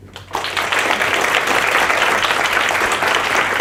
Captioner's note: applause